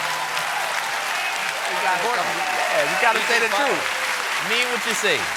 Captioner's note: applause